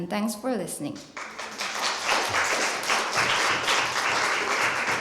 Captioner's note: applause